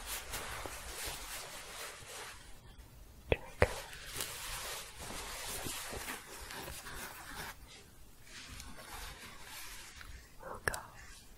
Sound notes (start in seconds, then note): 0.0 shuffling; 5.2 shuffling and scratching